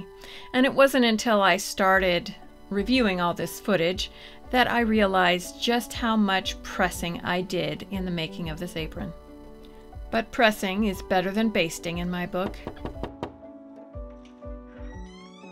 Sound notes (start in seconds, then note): 12.4 knock Knock